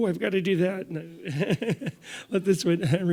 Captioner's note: laughs